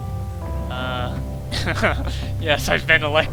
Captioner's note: laughs